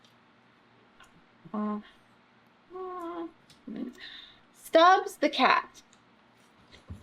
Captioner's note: gasps